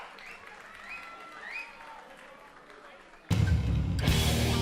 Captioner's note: crowd cheering